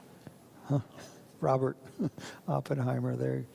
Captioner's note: chuckles